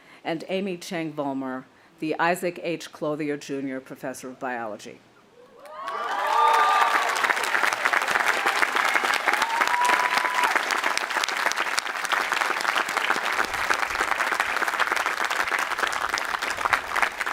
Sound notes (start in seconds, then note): 5.8 audience applauding and cheering